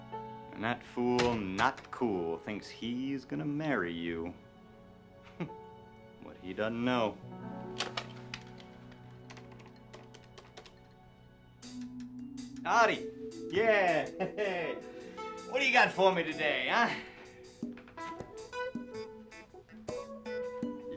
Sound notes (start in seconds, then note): 7.5 gentle music continues; 7.8 phone clicks; 11.5 pleasant groovy music